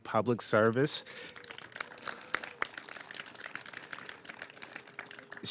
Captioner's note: applause